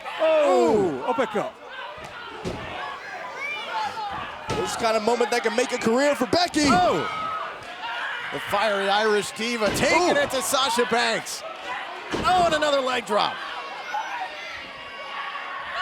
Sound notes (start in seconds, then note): 2.3 crowd vocalizing